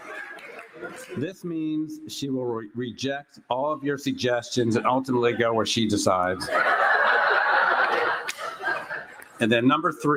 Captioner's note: laughter